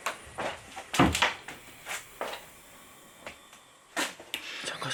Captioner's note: the refreshing sound of closing the door